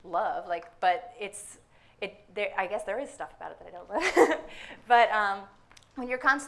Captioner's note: laughs